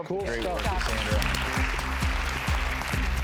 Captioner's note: enthusiastic applause